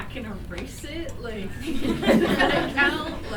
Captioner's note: laughter